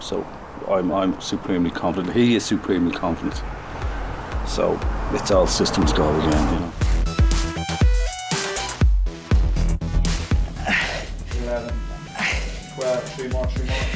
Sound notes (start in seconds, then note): 10.4 grunting